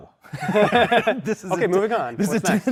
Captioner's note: laughter